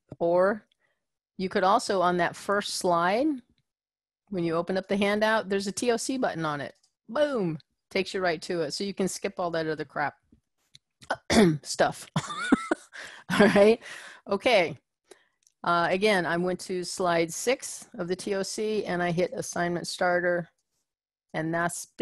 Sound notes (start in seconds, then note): 11.2 cough